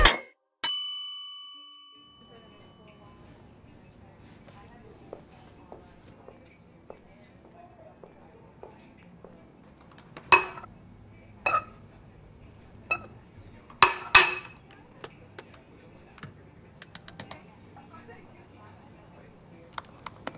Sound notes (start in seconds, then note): 0.1 plate plopping; 0.6 bell ringing; 13.8 keys banging